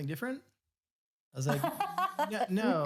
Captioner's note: laughs